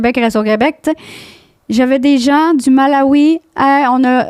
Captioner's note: in french